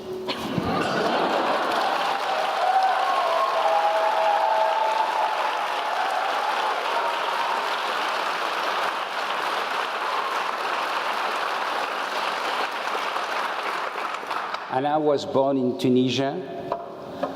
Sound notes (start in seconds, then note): 0.3 laugh; 5.6 applause